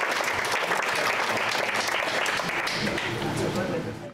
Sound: applause

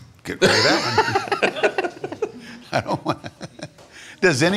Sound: laughing

